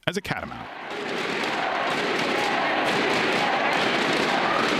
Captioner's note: sports fans chanting